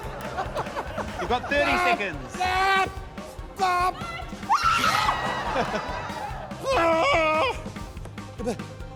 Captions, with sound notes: - (LAUGHTER) - You've got 30 seconds. - (SHOUTING, SCREAMING, LAUGHTER) - Argh!